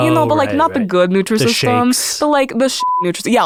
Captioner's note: beep